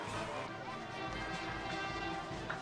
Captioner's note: horns honking